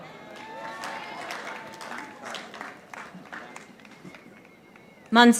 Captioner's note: audience applauding